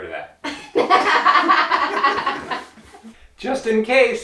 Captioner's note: both laugh